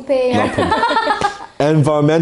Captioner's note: ladies laugh